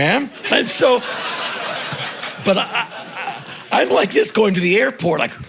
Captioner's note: crowd laughing